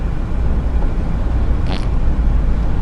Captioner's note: farts